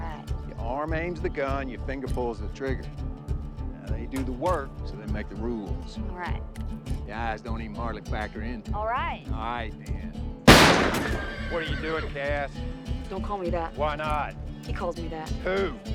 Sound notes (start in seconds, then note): 10.5 horse whinnies